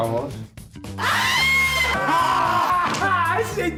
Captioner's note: screams